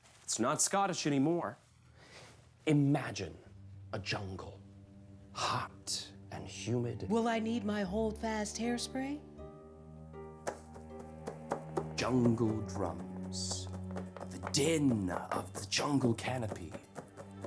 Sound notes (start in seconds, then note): 4.4 soft music; 10.4 tapping